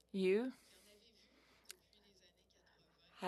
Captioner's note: speaking French